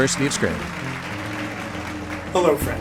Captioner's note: applause